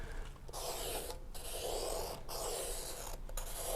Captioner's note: pencil scrapes